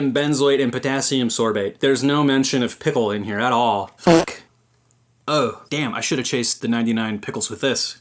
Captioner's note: sip